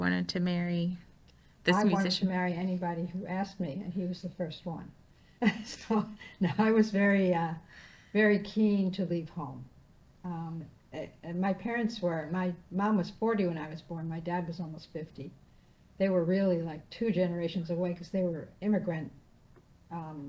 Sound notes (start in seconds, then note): 5.6 laughing